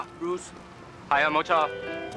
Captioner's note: speaking Mandarin